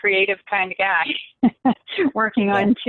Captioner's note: laughs